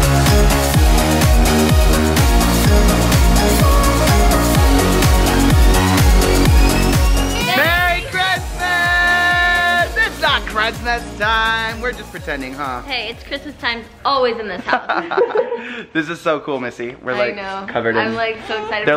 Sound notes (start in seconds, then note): 14.6 laughs